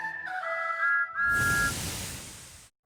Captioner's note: thomas whistles